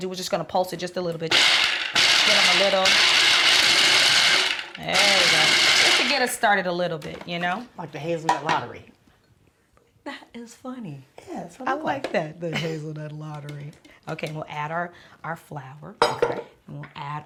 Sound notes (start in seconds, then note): 1.3 food processor chopping